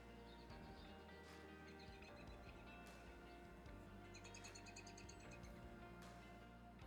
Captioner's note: aggressively whimsical bird noises